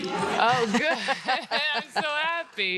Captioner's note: laughing